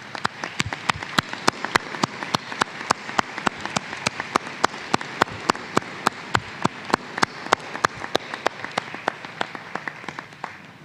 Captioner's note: applause